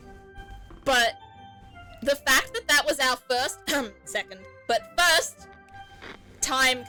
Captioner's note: cough